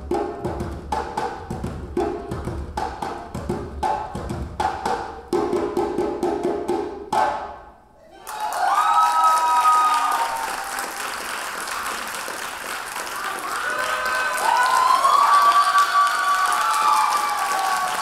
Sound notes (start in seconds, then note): 3.2 drums beating; 8.3 audience applauding